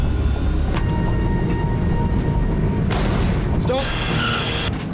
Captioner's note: plane engine humming